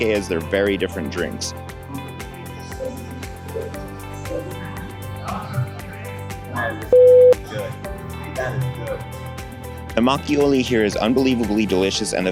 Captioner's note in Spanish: bip